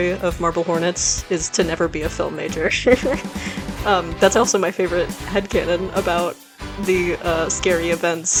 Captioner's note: laughs